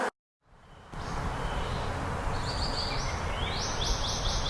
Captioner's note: birds singing